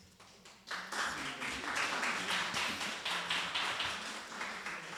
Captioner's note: audience applauding